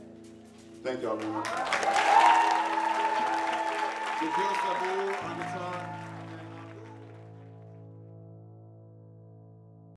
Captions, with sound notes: Thank y'all very much. (audience applauding)